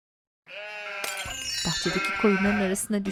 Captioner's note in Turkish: Kırılma sesi